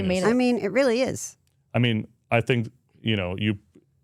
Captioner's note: none